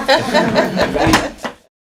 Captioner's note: laughter